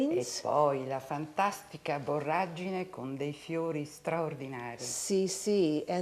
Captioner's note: speaking Italian